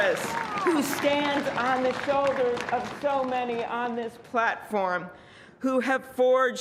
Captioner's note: cheers and applause